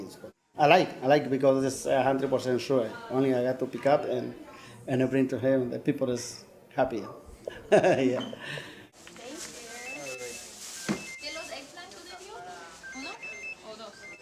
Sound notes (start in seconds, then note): 7.4 laughs; 9.2 shoppers talking